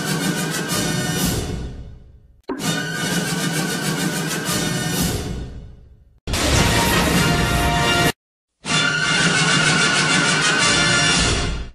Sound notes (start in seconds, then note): 6.1 electricity zapping as rousing fanfare plays; 8.5 rousing fanfare plays